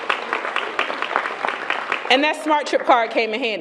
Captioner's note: applause